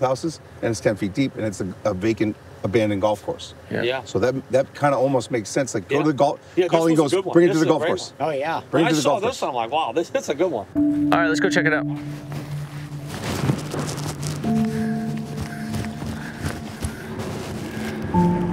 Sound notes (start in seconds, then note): 12.1 boat drags